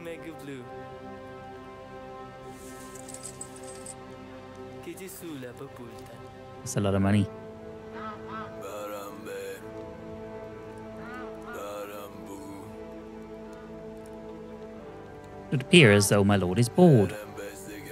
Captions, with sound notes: [speaking in foreign language] That's a lot of money. It appears, though, my lord is bored.